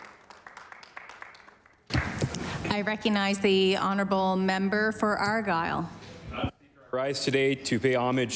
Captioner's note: applause